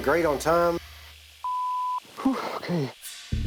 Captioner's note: exhales